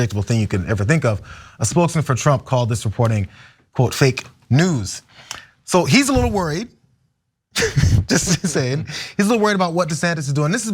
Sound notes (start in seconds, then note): 7.6 laugh